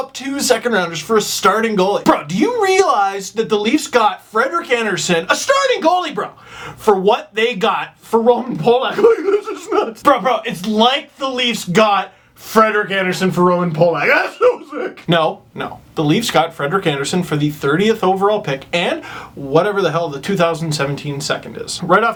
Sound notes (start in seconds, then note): 9.0 mumbles